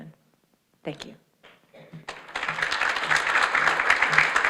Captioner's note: audience applauds